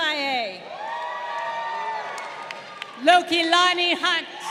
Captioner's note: crowd cheering